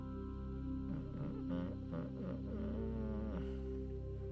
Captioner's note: narrator hums